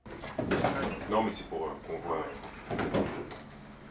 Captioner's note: speaking French